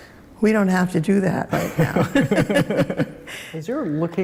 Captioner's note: both laugh